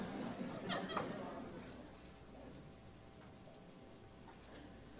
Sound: audience laughing

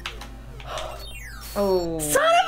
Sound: sigh

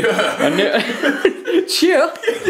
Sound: laughing

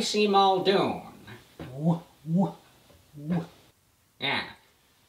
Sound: bad James Cagney imitation

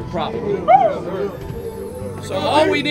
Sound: team cheers

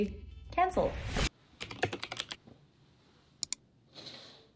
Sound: keys tapping

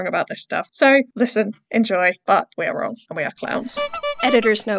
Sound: clown horn

